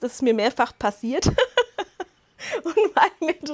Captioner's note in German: Lachen